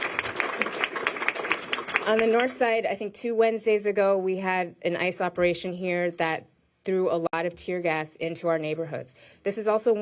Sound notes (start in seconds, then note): 1.8 applause